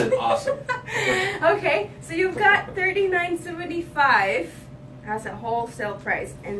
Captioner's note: chuckles